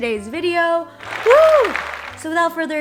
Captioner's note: hands applauding